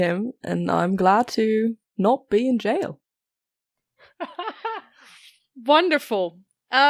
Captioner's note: Rik laughs